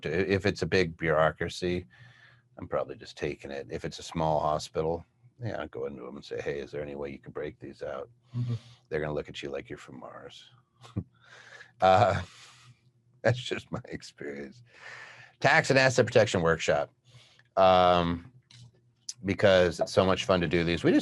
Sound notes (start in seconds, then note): 11.8 chuckles